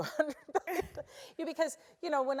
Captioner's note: laugh